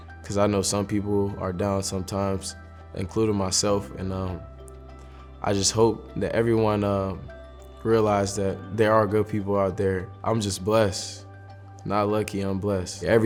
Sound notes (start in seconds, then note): none